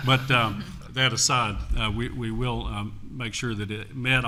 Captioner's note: laughter